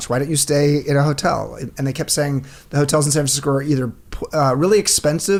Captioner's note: none